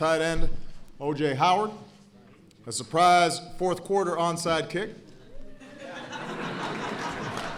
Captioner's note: applause